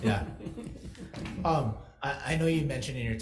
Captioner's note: people chuckle